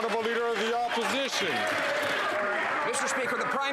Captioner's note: some Applause